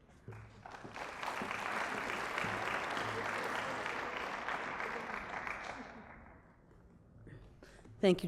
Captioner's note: applause